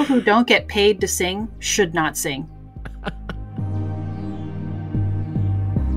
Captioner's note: voiceover